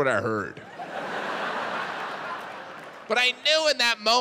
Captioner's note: audience laughs